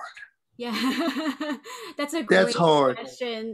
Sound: laughs

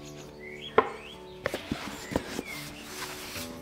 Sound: lid closes

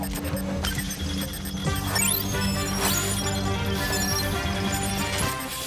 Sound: beeping

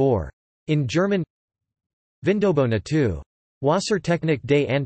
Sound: in German

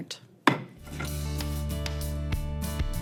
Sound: gavel pounds; upbeat music

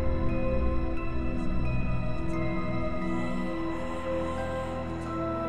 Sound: ghostly whispers

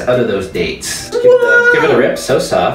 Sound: disgruntled noise

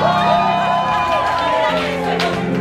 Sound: cheering; singing

